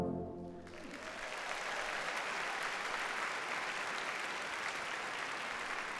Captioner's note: audience cheers and applauds